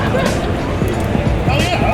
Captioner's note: crowd laughing